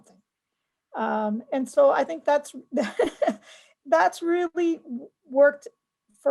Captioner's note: laughs